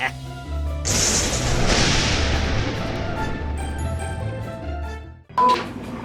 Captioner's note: laughs; upbeat music; thunder cracks